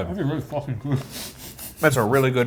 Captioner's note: laughing